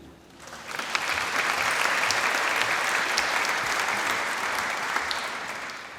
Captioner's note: applause